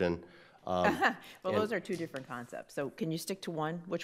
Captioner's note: laughing